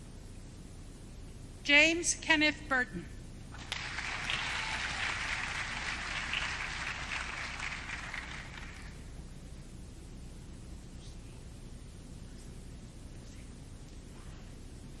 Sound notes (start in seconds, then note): 3.5 audience clapping